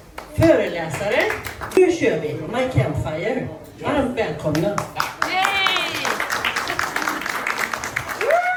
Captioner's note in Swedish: applåder